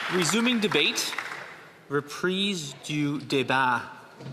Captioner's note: some Applause